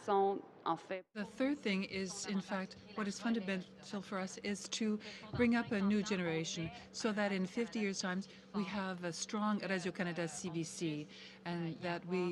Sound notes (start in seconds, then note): 4.5 speaking French